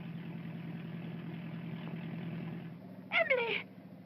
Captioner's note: car rumbling